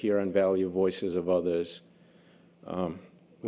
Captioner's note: none